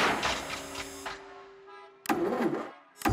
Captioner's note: ignition stalls